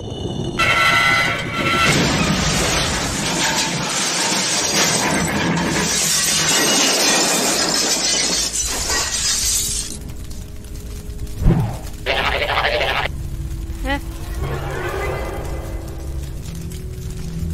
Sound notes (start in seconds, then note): 0.6 loud Metal Scraping; 1.6 another Explosion